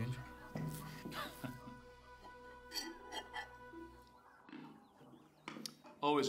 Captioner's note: chuckling